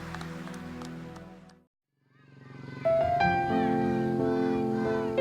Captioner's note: applause